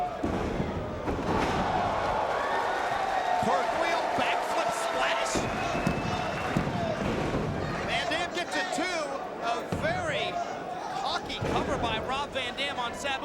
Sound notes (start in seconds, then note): 0.1 mat thumping; 1.8 crowd cheering; 5.3 mat slapping